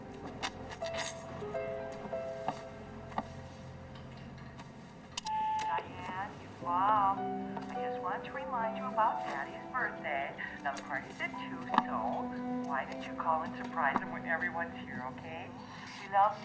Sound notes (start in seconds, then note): 5.2 machine beeps